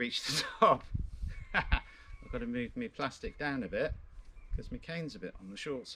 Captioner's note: laughs